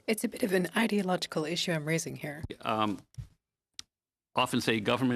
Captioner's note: speaking French